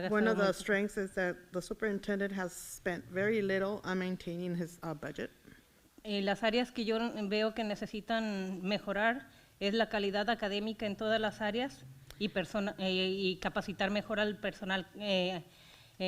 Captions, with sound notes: One of the strengths is that the superintendent has spent very little on maintaining his budget. (foreign language)